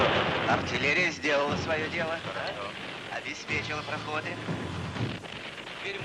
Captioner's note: soldier speaking in foreign language